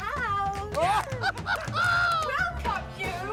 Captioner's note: laughing